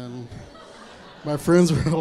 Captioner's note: crowd laughs